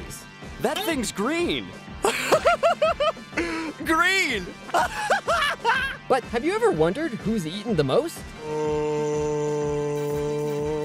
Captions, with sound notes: That thing's green. [laughing] Green. [laughing] But have you ever wondered who's eaten the most? Uh...